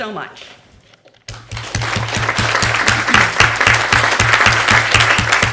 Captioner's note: applause